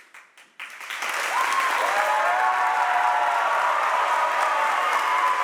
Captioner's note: audience applauds and cheers